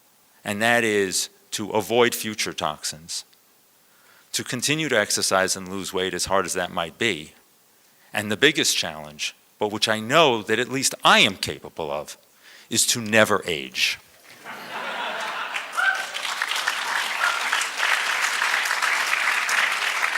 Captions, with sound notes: and that is to avoid future toxins, to continue to exercise and lose weight, as hard as that might be, and the biggest challenge, but which I know that at least I am capable of, is to never age. [LAUGHTER] [APPLAUSE]